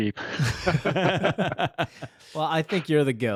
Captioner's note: all laugh